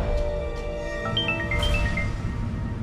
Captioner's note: phone ringing